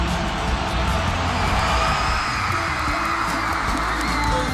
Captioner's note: crowd screams